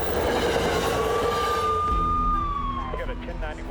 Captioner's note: gun shots; sirens